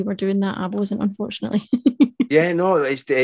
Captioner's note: chuckles